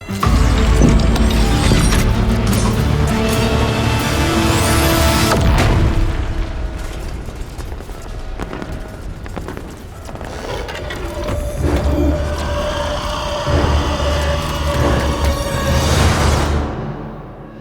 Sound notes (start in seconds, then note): 0.1 suspenseful music playing; 8.2 quiet blasts sounding